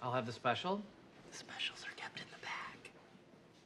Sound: whispered

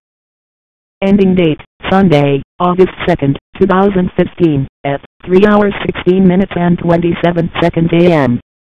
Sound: call ends

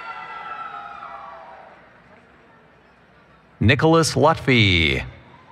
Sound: cheering

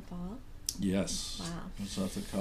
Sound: voiceover

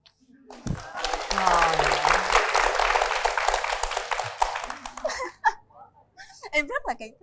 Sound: clap

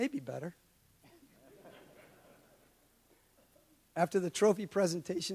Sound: audience laughs

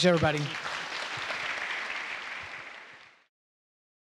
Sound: audience applauding

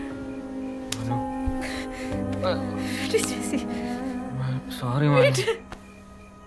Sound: Maanu sobbing

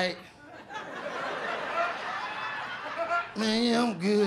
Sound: laughter

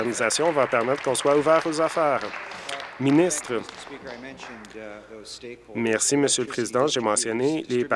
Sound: applause

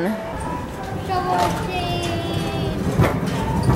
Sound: kids talking

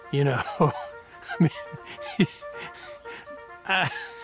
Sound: laughing

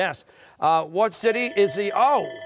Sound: buzzer

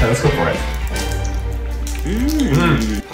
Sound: chewing

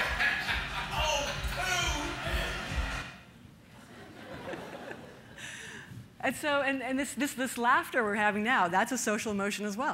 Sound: audience laughter

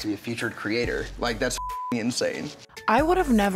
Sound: beep

